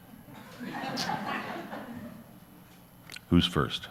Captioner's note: audience laughs